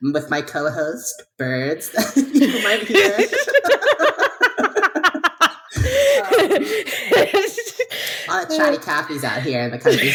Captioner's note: both laughing